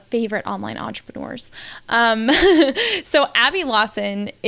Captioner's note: laughs